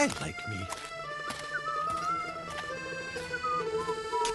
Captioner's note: whistling